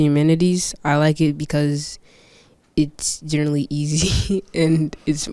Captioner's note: laughs